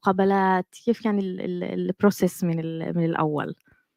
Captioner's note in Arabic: لغة أجنبية